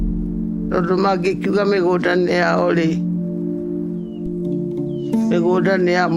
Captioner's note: light music; speaking in foreign language